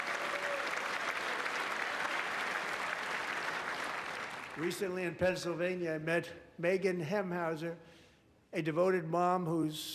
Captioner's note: applause